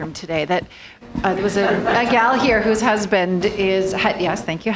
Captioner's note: laughter